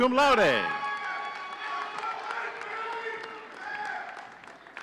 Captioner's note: audience cheering